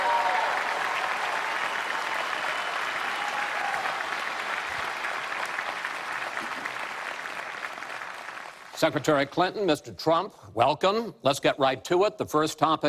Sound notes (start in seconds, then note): 1.4 applause; 7.0 cheers